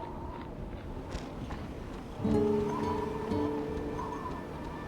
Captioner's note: wind whistles; feet padding